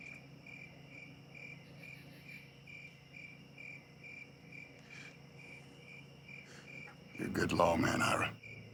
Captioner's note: crickets chirping